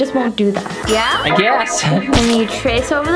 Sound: laughs

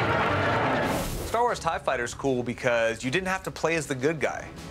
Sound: whirring; lasers blast

